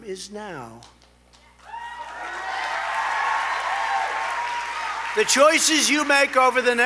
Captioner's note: applause